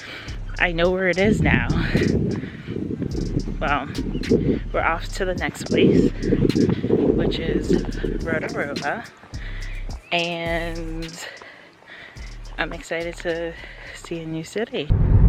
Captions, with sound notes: I know where it is now. (wind whooshing) Well, we're off to the next place, which is Rotorua. And, I'm excited to see a new city.